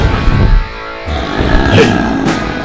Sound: monster growls

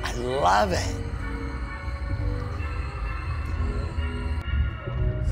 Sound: creepy laughter

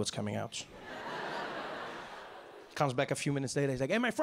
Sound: audience laughing

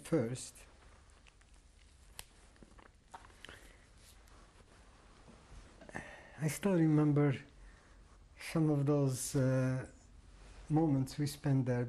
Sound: pauses for 6 seconds

